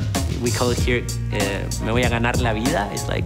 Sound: speaking Spanish

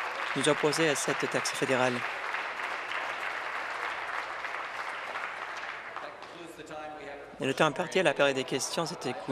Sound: applause

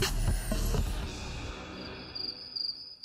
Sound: crickets chirping

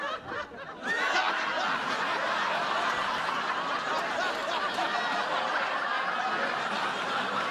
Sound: laughter

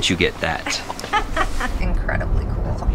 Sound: laughs

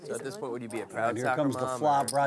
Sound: voiceover

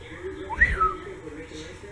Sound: whistles

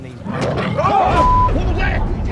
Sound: growling

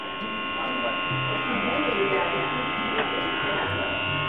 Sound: clippers buzzing

